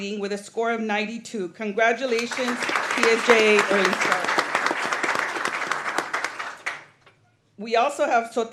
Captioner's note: applause